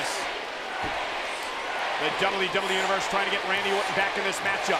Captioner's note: applause